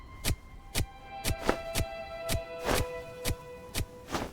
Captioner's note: stick thudding; soft orchestral music continues